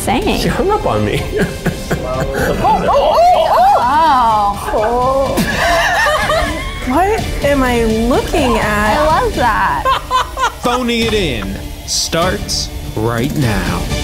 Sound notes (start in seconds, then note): 1.2 laughs; 2.3 all exclaiming; 9.8 both laughing